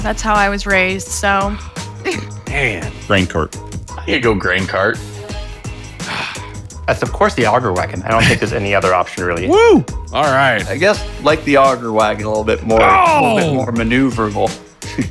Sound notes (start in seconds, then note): 2.0 laughing; 6.0 sighing